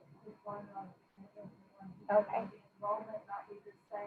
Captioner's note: speaking faintly